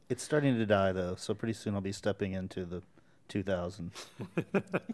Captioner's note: chuckles